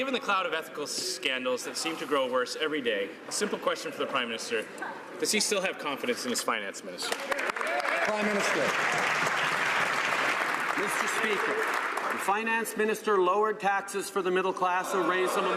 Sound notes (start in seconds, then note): 10.4 some Applause